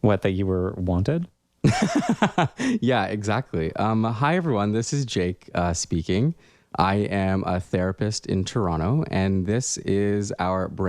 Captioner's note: laugh